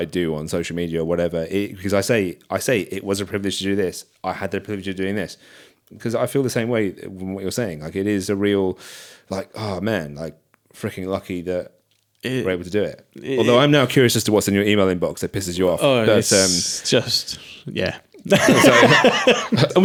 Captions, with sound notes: do on social media or whatever, because I say it was a privilege to do this. I had the privilege of doing this because I feel the same way from what you're saying, like it is a real, like, oh man, like freaking lucky that we're able to do it. Although I'm now curious as to what's in your email inbox that pisses you off. Oh, it's just, yeah. (laughing)